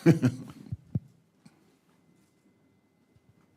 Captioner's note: laughs